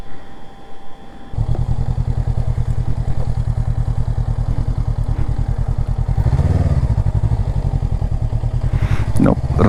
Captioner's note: engine thrum